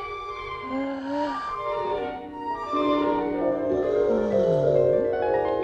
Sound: sighs

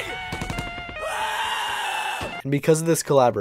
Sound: gun fires

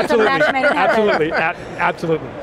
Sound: laughs

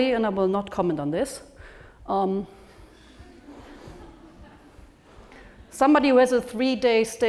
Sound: laugh

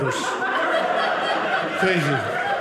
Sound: audience laughing

